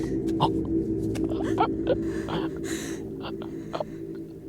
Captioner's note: Samuel gurgling